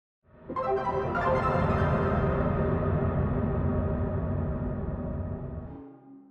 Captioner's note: eerie wind ambience